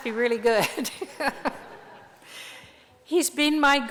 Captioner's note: laughter